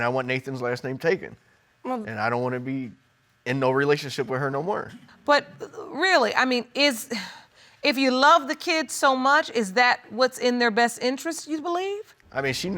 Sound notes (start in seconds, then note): 7.4 sighs